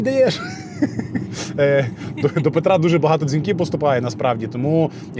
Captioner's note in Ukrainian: сміх